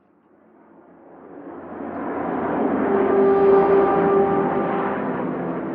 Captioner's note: plane engine roaring